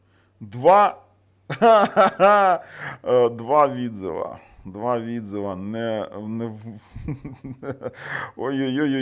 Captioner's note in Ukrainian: сміх